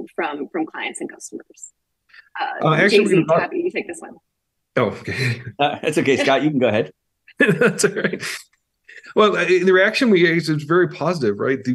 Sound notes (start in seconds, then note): 4.8 chuckles; 7.3 laughs